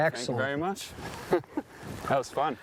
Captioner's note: chuckles